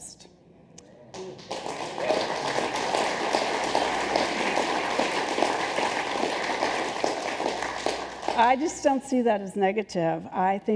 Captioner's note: applause